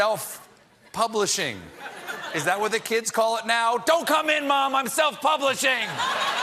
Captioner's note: laughter